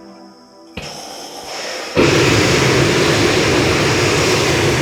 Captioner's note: engine igniting